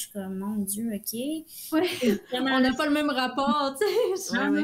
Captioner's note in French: rires